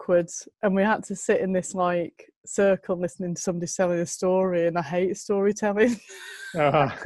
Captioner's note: haha; lacht